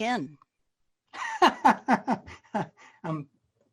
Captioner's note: laughs